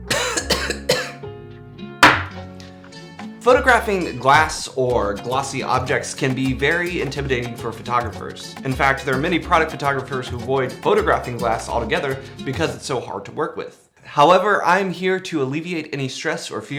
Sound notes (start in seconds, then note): 0.0 man coughing; 2.0 glass clinks; 2.7 upbeat guitar music